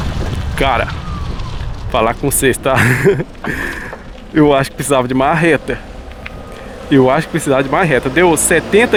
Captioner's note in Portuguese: risadas